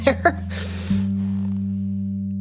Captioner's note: laughs